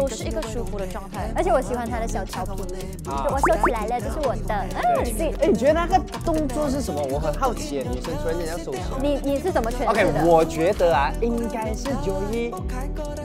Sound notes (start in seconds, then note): 3.4 playful